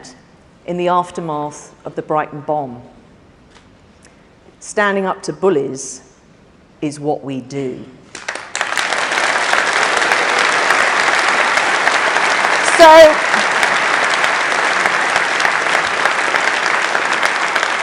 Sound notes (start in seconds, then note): 11.8 applause